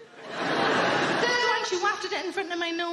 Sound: audience laughing

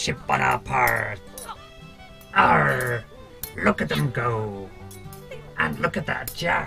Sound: Billy grunts

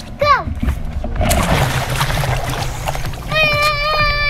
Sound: splash

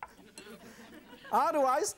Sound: audience chuckles

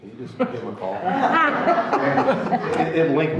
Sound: everyone laughing

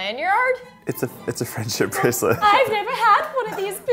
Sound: sniggering

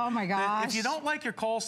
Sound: laughter

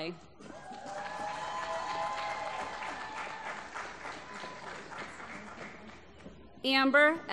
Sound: applause

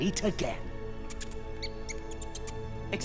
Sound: squeaking

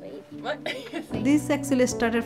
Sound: laughter

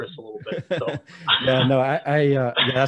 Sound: laughing

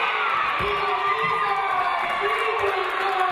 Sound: audience cheering

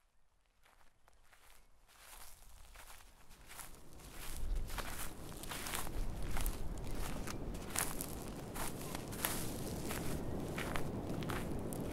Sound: wind and footsteps walking on dry grass

